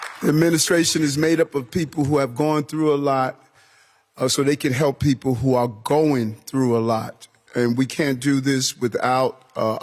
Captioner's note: applause